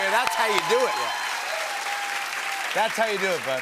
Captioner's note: cheers and applause